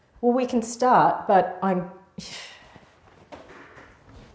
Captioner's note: sighs